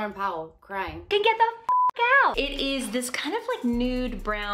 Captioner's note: beep